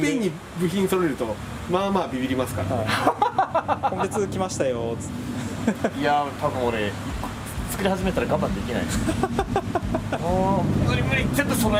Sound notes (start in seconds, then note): 5.5 laughs